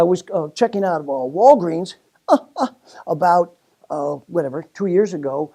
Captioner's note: laugh